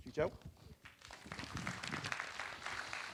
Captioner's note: applause